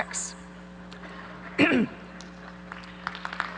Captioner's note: audience laughing; clears throat; applause